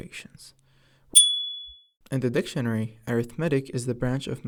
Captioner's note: ding